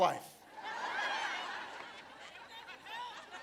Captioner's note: laughter